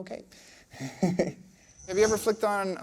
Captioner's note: laughing